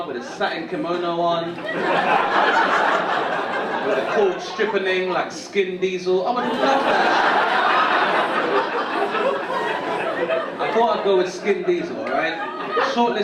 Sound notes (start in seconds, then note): 2.0 audience laughing; 6.3 audience laughing